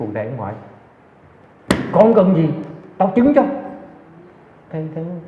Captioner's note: slaps leg